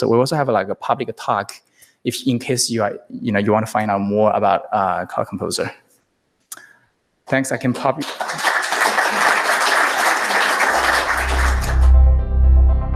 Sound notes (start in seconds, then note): 7.6 applause